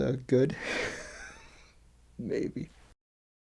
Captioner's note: laughs